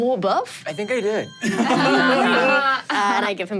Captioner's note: everyone laughs